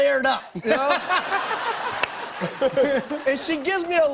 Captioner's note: laughter